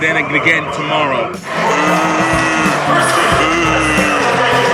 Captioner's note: booing